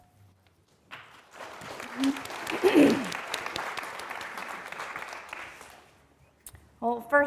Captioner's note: applause